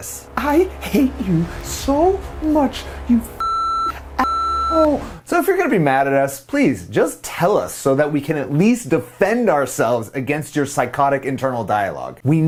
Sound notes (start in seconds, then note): 2.8 long beeping